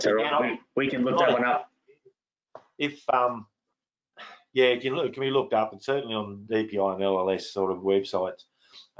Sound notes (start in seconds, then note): 4.9 sighs